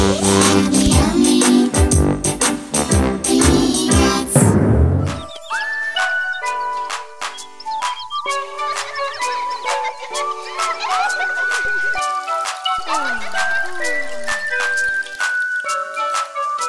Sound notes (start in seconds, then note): 5.0 sun whistling